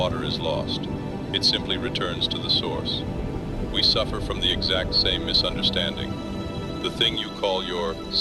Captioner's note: breath